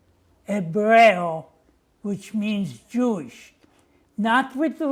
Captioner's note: non-english